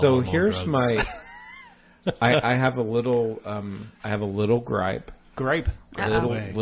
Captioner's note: DJ laughs